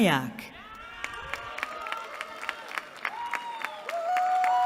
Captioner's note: cheering